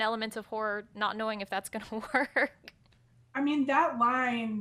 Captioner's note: chuckles